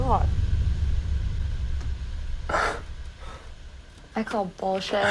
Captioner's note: static hisses